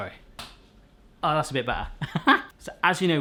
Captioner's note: laughs